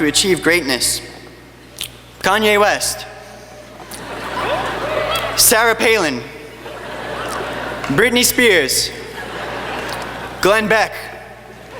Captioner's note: laughing